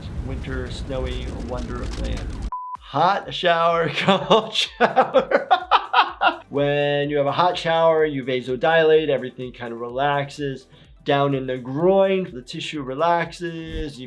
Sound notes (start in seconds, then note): 3.9 laughing